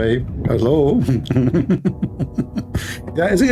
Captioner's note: Ketawa